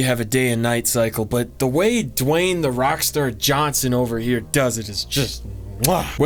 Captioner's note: mwah